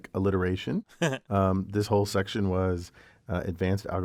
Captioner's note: laugh